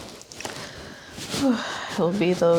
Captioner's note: sighs